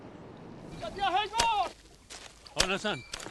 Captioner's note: yelling at an animal to move on